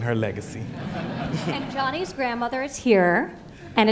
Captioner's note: laughter